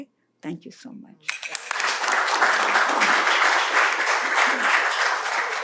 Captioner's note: applause